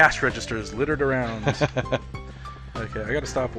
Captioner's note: laughing